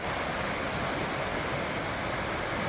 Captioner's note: sound of running water